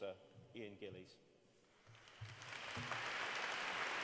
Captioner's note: applause